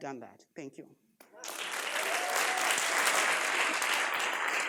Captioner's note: audience applauds